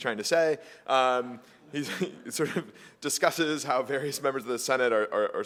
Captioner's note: laugh